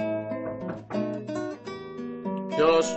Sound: door knocking

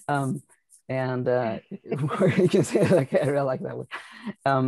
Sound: laughing

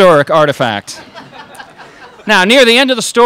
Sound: crowd laughs

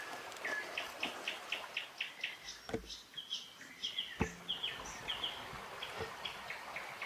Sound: birds chirping; water splashing

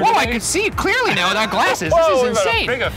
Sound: laughs

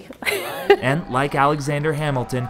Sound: laughs

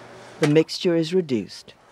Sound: voiceover

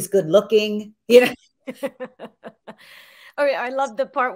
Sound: both laugh

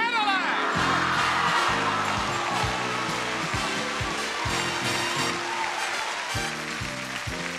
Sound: audience cheering; exciting music

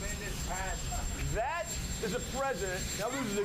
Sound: helicopter idling sound

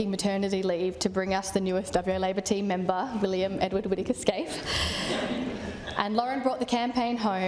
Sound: laughter

